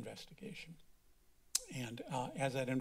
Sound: clicks tongue

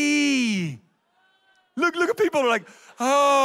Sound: audience cheers

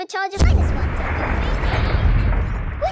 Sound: distant explosion

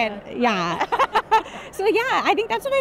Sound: laughter

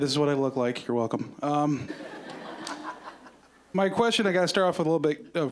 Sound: audience laughing

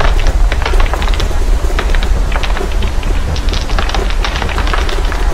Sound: rattling sound accompanied by the noise of birds chirping and water flowing

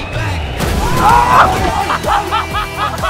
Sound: exclamations and laughter

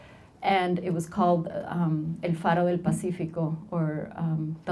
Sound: speaking Spanish

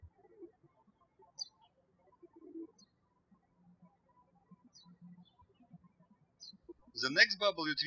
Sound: birds chirping

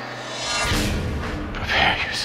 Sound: dramatic swishing

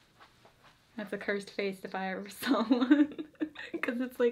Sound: laughs

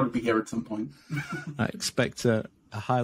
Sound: chuckles

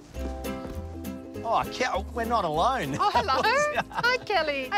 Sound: laughs

